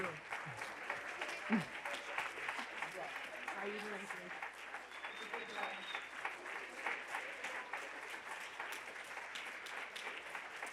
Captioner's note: applause